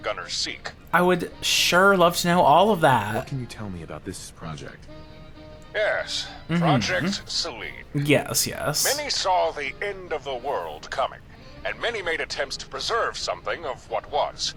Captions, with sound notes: I would sure love to know all of that. (laughs) Yes, yes.